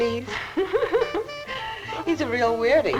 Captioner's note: laughing